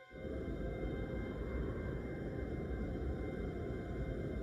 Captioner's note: wind blowing